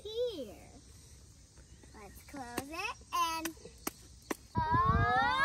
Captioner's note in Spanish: क्लैप क्लैप क्लैप